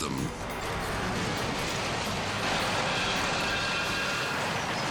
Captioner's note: truck crashing